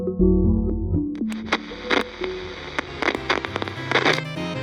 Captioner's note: radio static